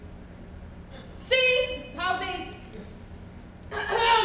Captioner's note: clears throat